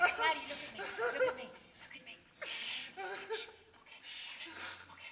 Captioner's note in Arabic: تبكي